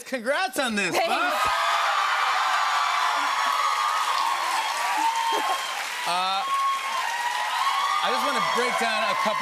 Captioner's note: cheers and applause